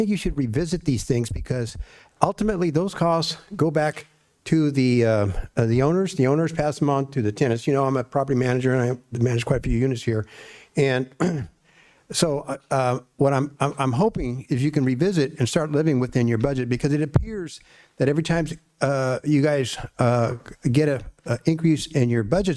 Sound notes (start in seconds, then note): 11.2 clears throat